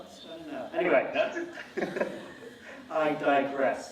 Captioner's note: laughing